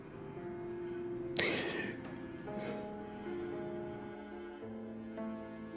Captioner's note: Mason sobbing quietly; gentle music